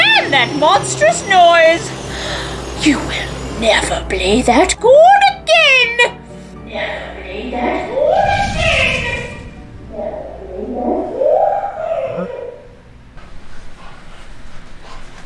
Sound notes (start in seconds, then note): 7.4 echoes